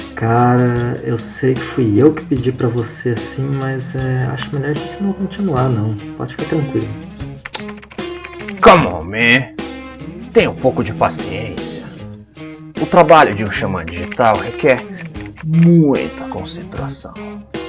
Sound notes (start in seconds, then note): 7.4 tsk